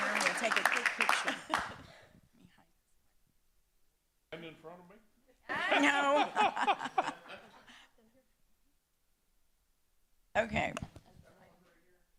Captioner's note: applause